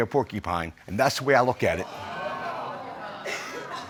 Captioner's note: audience exclaims